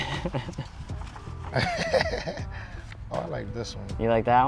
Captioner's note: laughter